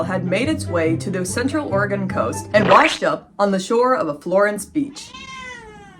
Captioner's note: goofy music; splat sound; louder meow